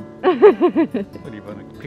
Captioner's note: laughs